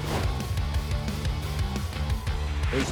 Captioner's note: cheers and applause